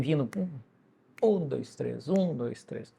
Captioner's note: vocalizes the beat